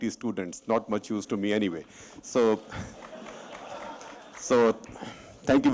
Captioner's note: laughter and applause